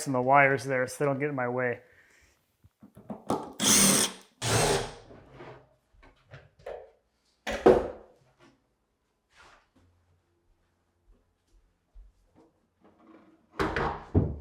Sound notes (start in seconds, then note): 3.6 drill whirring